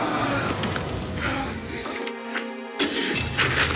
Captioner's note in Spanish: quejidos